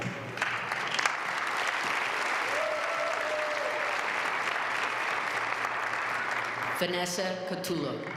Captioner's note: applause